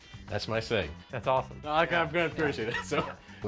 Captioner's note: laughter